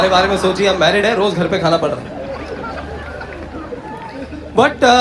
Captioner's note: audience Laughter